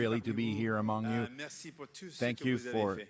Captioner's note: speaking French